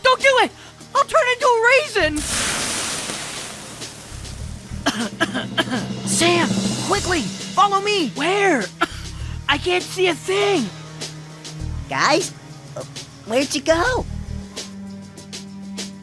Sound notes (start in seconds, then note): 4.8 coughing